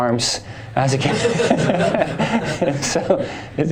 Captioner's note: laughter